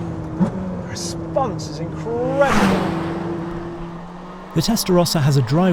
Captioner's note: engine rumbles